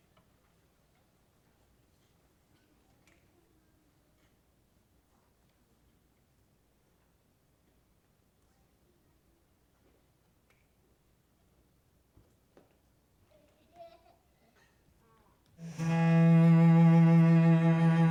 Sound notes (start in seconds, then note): 13.2 child giggles softly; 15.6 sad music